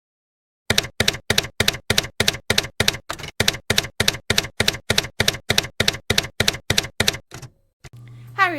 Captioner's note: typewriter keys clacking